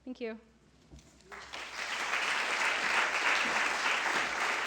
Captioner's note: applause